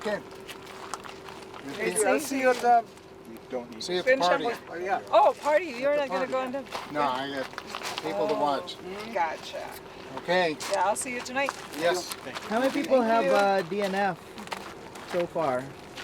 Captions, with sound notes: - Okay. - I'll see you at the. (overlapping chatter) - See you at the party. - Oh you not gonna go and. - No, I got people to watch. - Gotcha. - Okay. - Yeah, I'll see you tonight. - Yes, thank you. - How many people have a DNF so far?